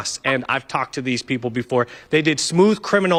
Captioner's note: laughter